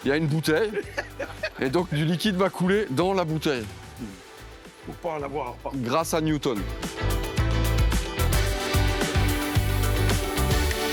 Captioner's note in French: rires